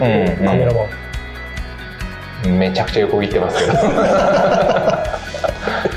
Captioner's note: laughs